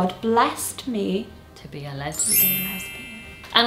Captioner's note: chiming